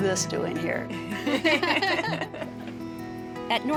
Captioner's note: both laugh